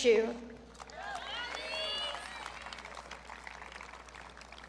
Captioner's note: audience cheering